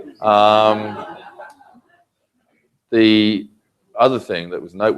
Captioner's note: laugh